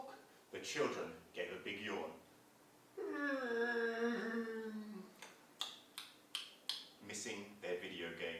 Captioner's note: sound of yawning